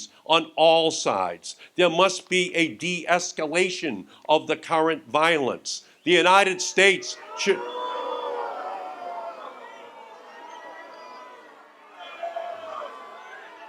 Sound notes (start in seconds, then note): 7.9 audience jeers and shouts